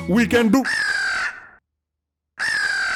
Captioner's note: crow screams